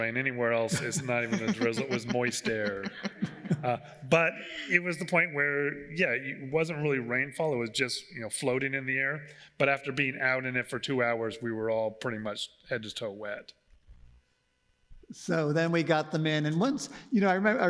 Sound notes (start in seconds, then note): 2.7 everyone laugh